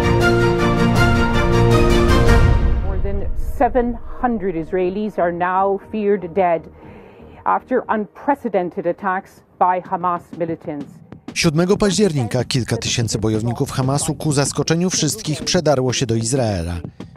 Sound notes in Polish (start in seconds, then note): 2.9 wiadomości w tv